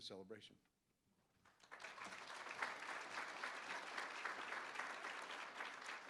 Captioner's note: applause